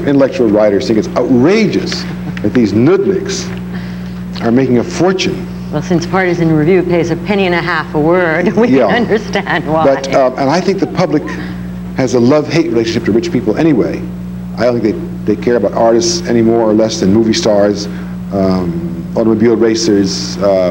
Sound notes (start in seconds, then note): 8.3 laughs